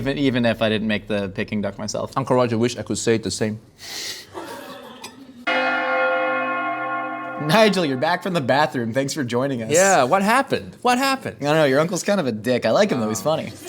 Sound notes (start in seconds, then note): 4.4 laughing; 5.4 bells Ringing